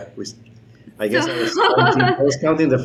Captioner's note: laughing